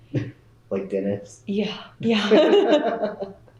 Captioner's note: laughter